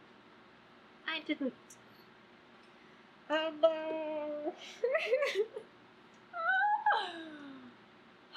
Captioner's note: laughs